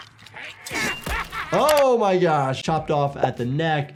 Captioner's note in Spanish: golpes de espada